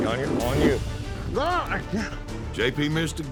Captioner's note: grunting